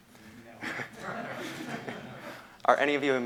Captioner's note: laughter